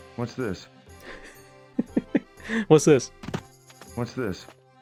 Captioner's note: laughing